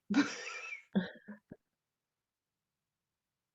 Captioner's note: laughter